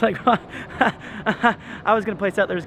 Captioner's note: chuckles